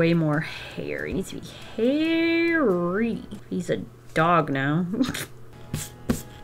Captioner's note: chuckles